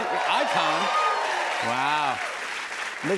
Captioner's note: cheers and applause